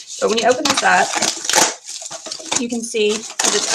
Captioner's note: plastic crinkling